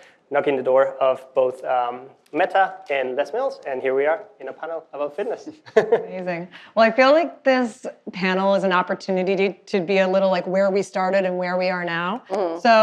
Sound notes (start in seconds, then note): 5.5 chuckling